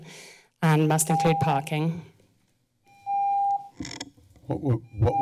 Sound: timer beeps

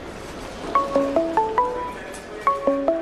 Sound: phone Ringing

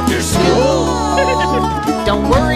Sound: Pasqually giggles

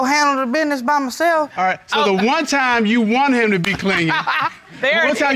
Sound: laughs

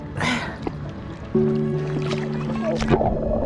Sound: loud exhale; bubbles

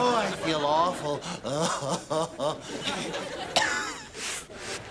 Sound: <i>coughing

